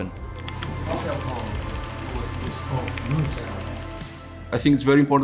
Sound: instrumental music; background chattering

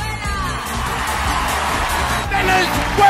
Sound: audience cheering

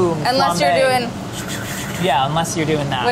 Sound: makes whooshing sound

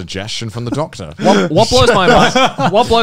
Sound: laughing

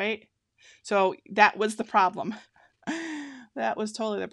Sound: laughing

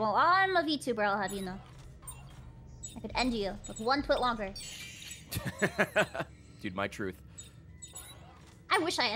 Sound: laughs

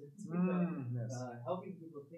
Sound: hums

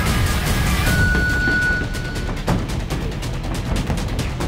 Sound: round timer sounds

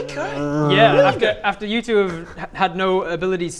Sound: moan

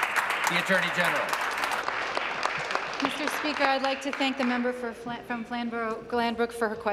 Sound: applause

